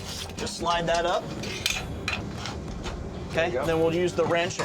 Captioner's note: clanging sound